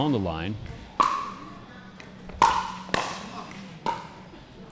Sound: ball bouncing

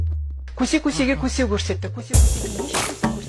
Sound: Chinese language in TV

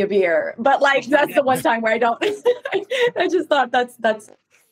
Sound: laughs

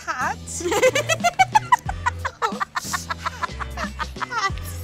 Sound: laughing

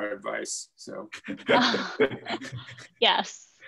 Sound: chuckles

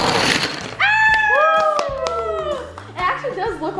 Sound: cheering

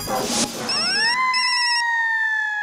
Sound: phone ringing

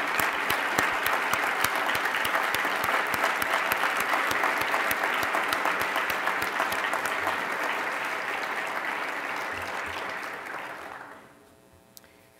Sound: applause

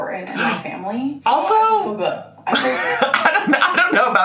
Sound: laughs

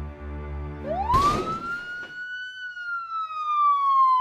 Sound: sirens

